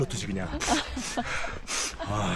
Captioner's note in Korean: 훌쩍